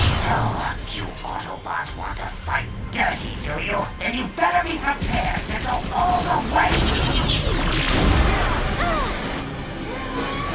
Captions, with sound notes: Oh, you Autobots want to fight dirty, do you? Then you better be prepared to go all the way! (EXCLAIMS)